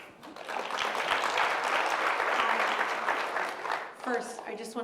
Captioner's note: applause